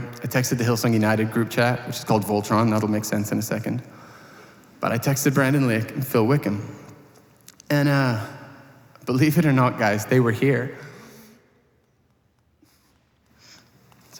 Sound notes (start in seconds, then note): none